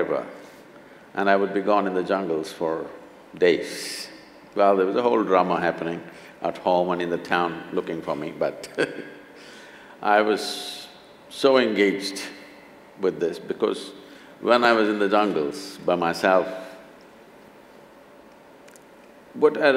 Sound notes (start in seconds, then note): 8.7 laughs